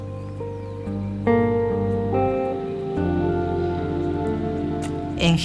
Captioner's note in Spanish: canto de pájaros